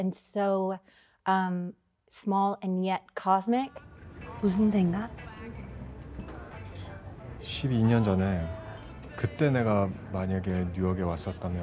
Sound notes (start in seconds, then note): 5.0 speaking Korean